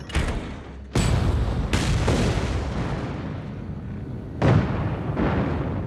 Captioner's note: loud explosions